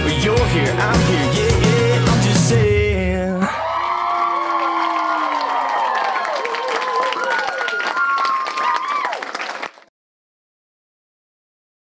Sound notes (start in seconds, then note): 3.4 cheering